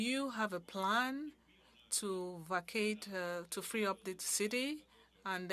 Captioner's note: speaking French